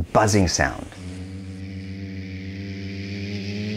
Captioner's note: hums